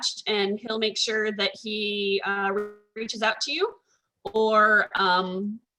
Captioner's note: audio distorts